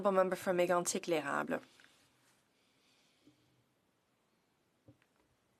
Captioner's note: speaking French